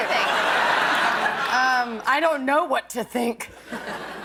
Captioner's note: laughter